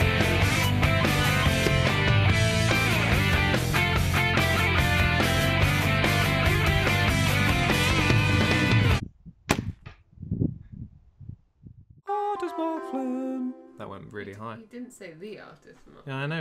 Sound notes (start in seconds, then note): 9.4 thud